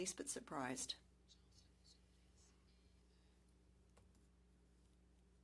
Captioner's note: speaking French